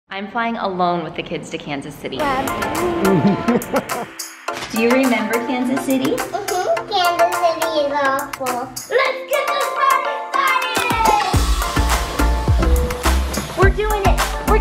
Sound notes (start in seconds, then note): 2.4 babbles; 2.6 giggles; 11.2 upbeat music